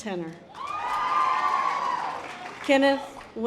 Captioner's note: audience applause